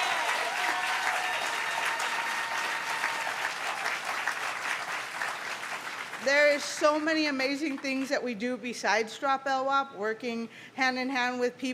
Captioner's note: cheers & applause